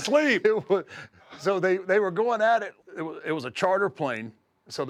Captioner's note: laugh